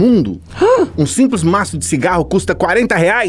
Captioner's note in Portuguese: faz som de surpresa